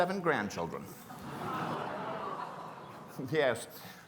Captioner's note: gasps from audience